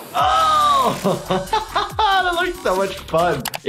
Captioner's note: techno music; laughing